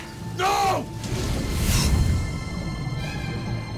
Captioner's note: fires rages; water gurgling